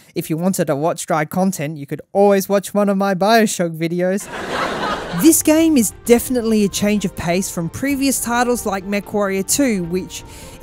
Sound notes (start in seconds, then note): 4.2 laff track